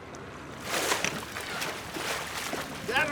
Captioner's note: background chatter; fish splashing